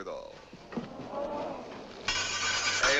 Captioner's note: audience gasps